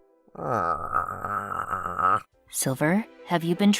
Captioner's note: utter filth groans, dazzlingly